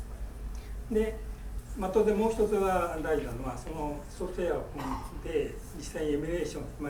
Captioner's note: speaking in foreign language